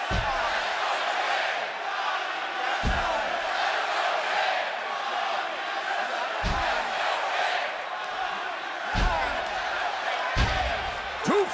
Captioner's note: crowd cheering